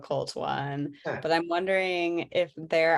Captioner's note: laughs